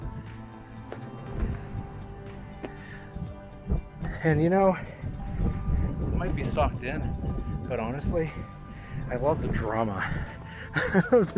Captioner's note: laughing